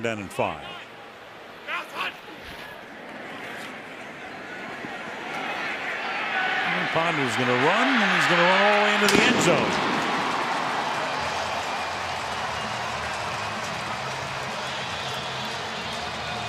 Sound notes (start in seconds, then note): 6.5 cheering; 9.0 firecrackers bursting; 11.0 cheering